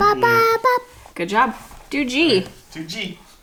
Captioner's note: babbling